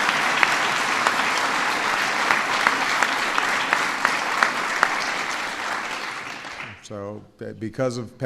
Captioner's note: applause